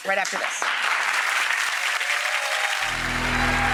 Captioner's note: applause